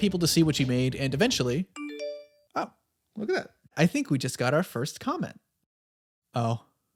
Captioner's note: phone ding